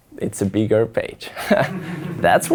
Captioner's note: audience laughs